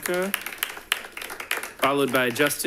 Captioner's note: audience applauding